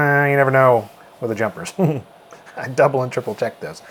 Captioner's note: chuckles